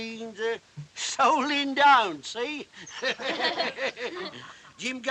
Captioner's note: all Laugh